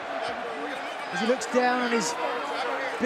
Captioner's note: crowd cheering